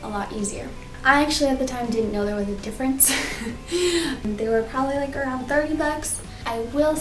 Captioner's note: laughs